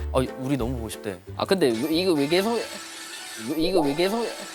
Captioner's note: ring-♬